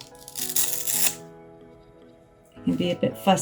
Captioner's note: sounds of velcro being pulled apart